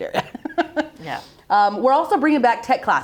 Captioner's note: laughing